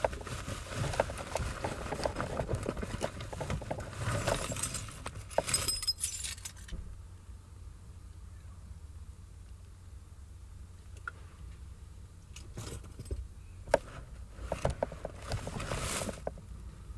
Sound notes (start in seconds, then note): 5.3 keys jingling